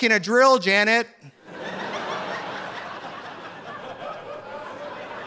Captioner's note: audience laughing